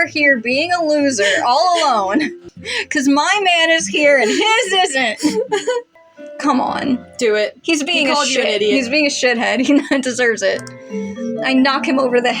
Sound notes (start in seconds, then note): 1.1 snicker; 3.8 chuckle